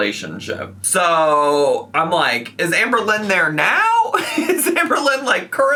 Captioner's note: laughs